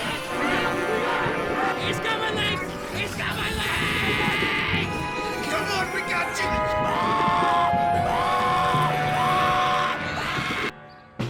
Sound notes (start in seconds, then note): 6.4 screaming